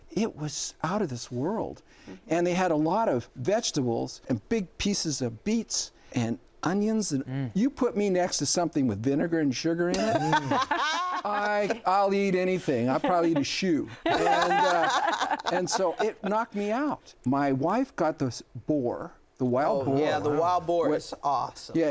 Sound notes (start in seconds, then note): 10.0 laughs; 14.0 laughs loudly